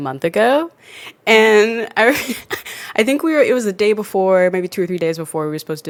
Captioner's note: laughs